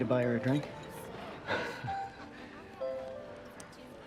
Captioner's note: laughs